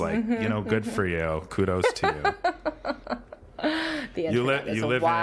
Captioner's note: laughing